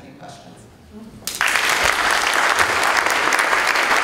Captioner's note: applause